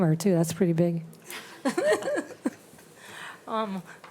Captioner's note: laughs